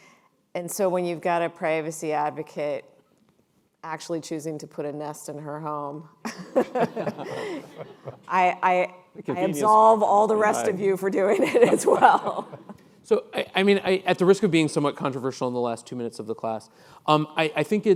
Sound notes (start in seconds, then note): 6.4 laughing